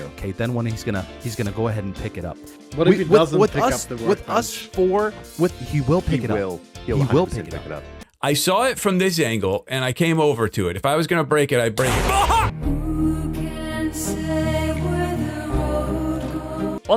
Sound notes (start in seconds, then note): 11.7 shouting; 11.8 explosion